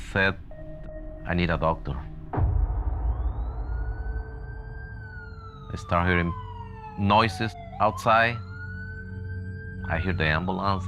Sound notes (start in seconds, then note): 2.3 siren wailing